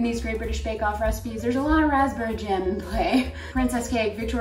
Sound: laughing

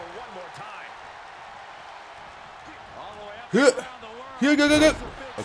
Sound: applause

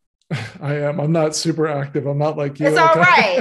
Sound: chuckles

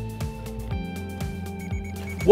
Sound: beeping

